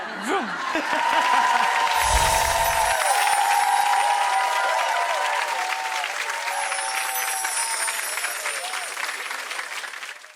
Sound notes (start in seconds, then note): 0.3 audience applauds; 1.9 wind chimes